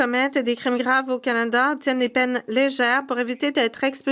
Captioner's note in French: voix de l'interprète